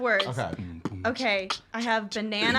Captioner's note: beatboxing